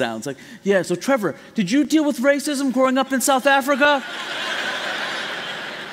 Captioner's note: laughter